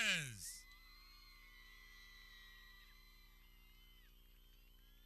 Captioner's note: people cheering